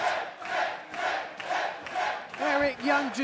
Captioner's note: fans chanting